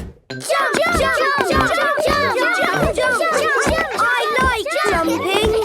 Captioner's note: all shouting "Jump! Jump!"